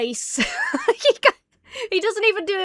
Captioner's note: laughs